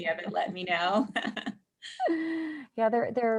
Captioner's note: laughter